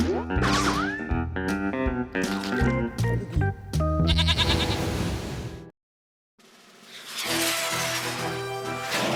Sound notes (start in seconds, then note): 4.0 bleats